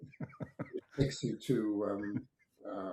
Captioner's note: laughs